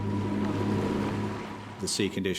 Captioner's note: boat engine revving